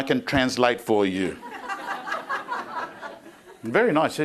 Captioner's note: crowd laughing